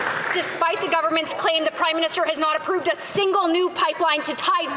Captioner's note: some Applause